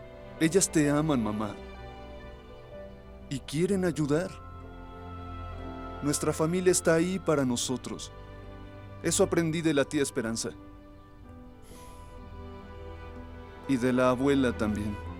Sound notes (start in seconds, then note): 11.6 Faith resopla